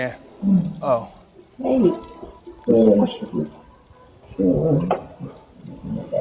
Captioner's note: muffled audio coming through video